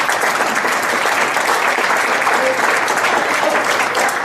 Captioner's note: audience applauds